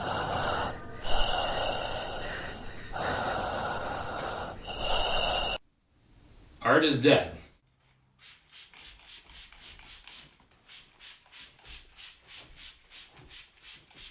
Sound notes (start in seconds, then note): 0.0 heavy breathing intensifies; 8.2 spray misting